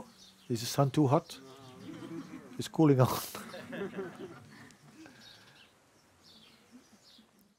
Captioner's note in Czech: smích